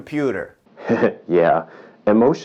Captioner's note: chuckling